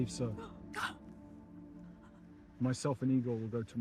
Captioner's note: Frances gasping